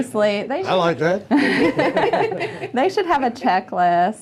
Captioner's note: laughter